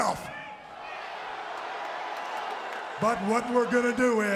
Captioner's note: crowd cheering